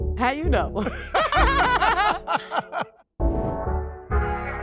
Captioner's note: all laughing; soft hip hop music